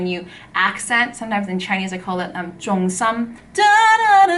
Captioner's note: Cantonese